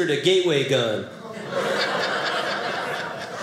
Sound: audience laughing

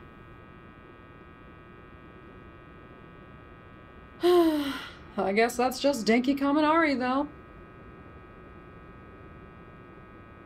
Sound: amused groan

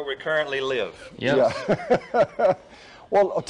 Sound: laughs

